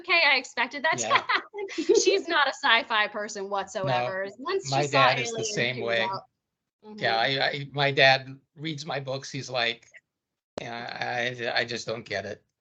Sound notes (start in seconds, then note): 0.9 chuckling; 0.9 laughing